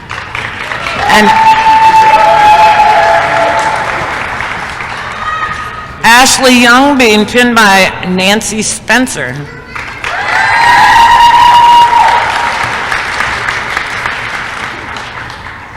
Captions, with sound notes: [applause] ASHLEY YOUNG being pinned by Nancy Spencer [applause & cheering]